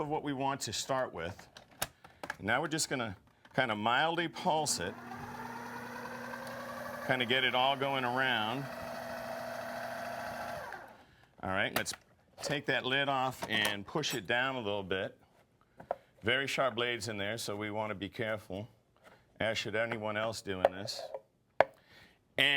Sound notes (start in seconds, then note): 6.3 machine whirs